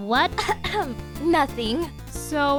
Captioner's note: coughs